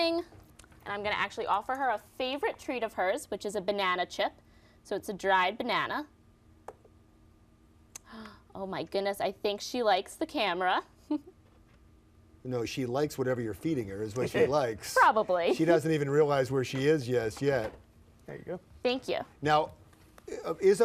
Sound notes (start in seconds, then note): 13.5 laughs; 16.8 laughs